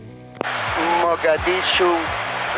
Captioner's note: pilot On Speaker